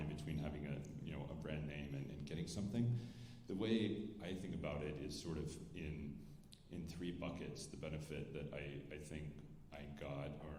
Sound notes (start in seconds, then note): none